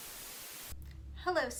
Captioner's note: TV Static